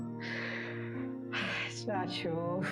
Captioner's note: scoffs